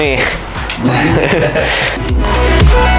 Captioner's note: group chuckles